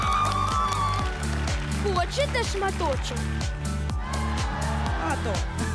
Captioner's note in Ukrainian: оплески